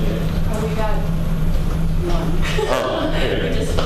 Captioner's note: laughing